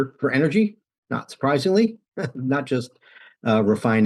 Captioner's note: laughs